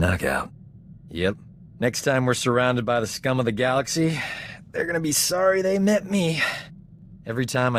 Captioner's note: sigh